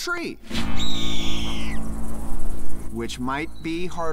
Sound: bird crows

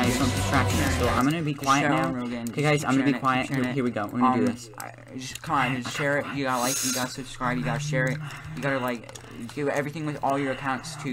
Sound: sssssssssssuuuuuuh

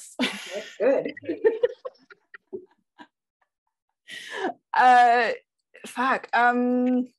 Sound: laughs

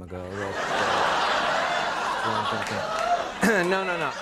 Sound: applause

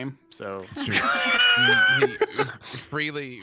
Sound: all laugh

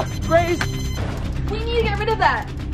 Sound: beeping intensifies

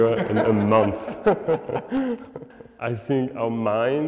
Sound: both laugh

